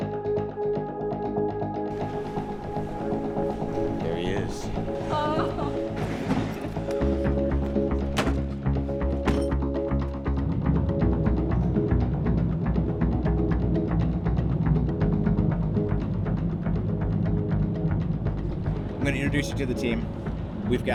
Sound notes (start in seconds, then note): 0.2 upbeat suspenseful music; 8.0 door slamming; 13.1 upbeat suspenseful music continues